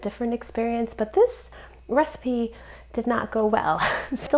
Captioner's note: chuckles